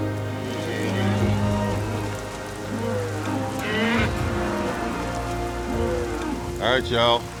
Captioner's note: mooing